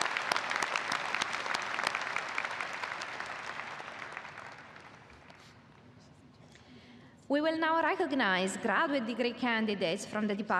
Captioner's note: applause